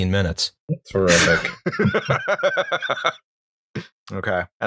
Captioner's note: laughter